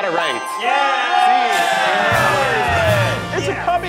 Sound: everyone cheering

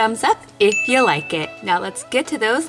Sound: bell dings

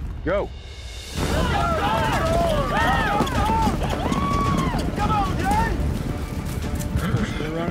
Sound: yelling, cheering

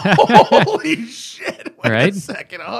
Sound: laughter

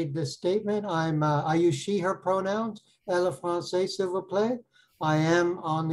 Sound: foreign language

